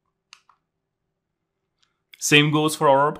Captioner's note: remote clicking